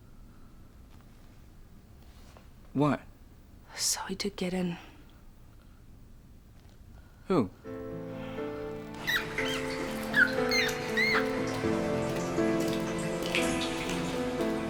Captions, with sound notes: - What? - So he did get in. - Who? (gentle music) (rats squeaking)